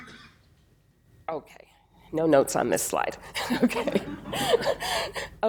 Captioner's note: laughs